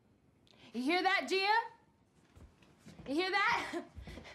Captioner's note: laughs